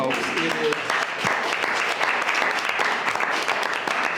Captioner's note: board clapping